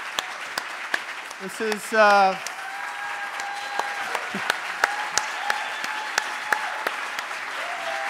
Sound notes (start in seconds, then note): 3.2 audience applauding